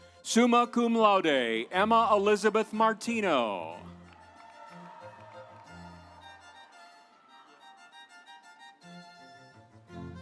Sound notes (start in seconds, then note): 3.2 audience cheering; 3.4 instrumental music